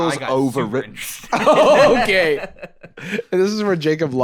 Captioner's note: laughing